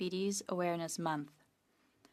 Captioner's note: speaking French